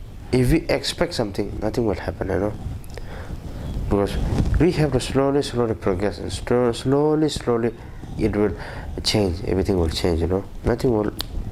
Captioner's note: click